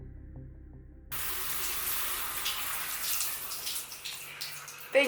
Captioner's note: shower runs